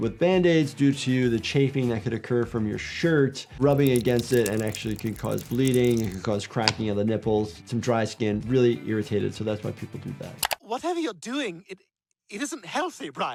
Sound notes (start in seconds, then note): none